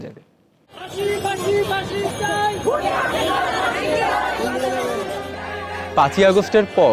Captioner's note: chanting